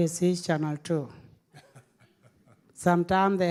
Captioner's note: audience laughing